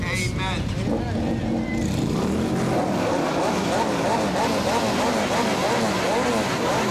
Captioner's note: engines revving